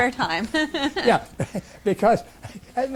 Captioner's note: laughs